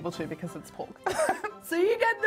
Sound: laughs

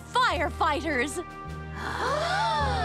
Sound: all gasping

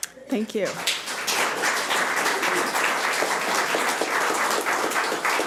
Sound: audience applauds

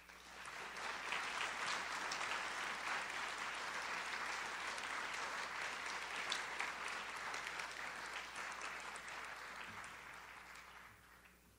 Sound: audience applauds

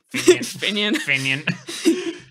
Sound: laughing

